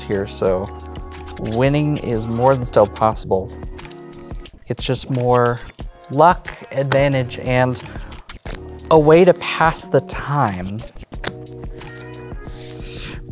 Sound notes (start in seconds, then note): 7.8 cards slap; 10.5 cards slapping and sliding